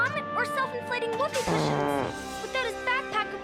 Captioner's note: Chester farts